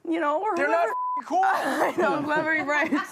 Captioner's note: beep